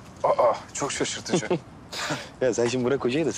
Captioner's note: laughs